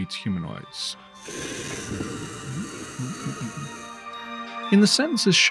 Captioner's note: dragon hiss